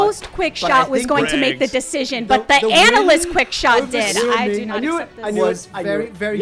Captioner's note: loud arguing